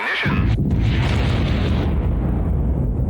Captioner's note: fiery rumble